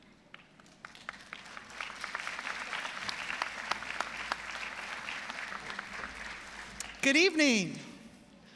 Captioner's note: applause